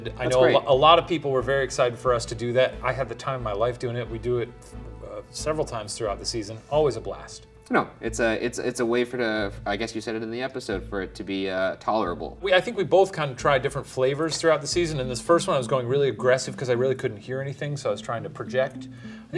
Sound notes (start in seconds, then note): none